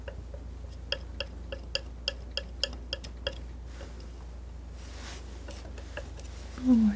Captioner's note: tapping